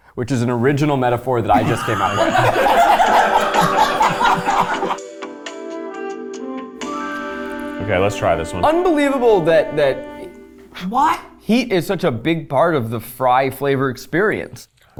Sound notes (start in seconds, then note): 1.5 all laughing; 3.7 gentle music